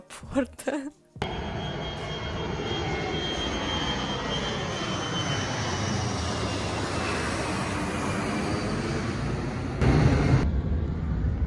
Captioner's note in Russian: звук взлетевшего самолета